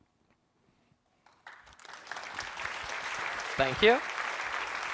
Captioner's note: applause